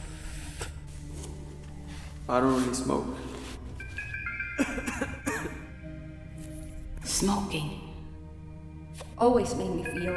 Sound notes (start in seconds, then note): 4.5 coughing